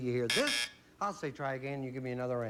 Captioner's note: buzz buzz